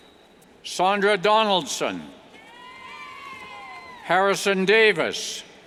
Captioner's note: cheers